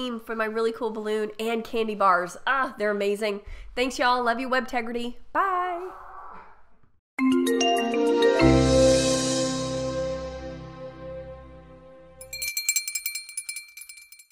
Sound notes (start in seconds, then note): 7.4 bass resonating; 12.2 chiming